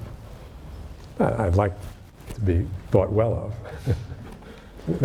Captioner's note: laughs